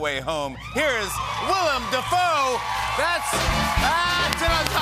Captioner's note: cheers and applause